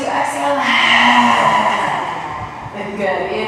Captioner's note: exhales